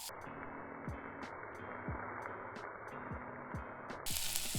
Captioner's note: frying in slow motion